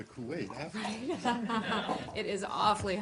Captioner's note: laughter